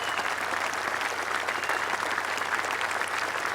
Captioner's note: applause